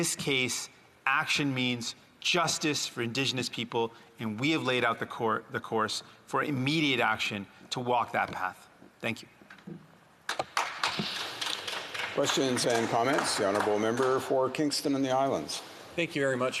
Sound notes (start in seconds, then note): 13.0 some Applause